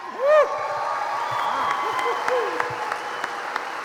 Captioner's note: applause